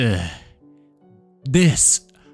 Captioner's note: groaning